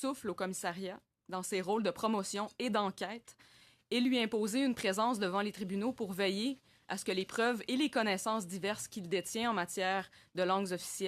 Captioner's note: speaking french